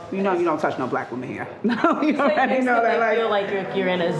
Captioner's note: laughs